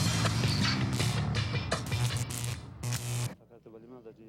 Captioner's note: dramatic instrumental music; electricity buzzing